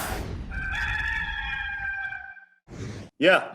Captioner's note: cock crows